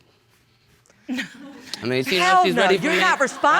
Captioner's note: laughs; audience laughs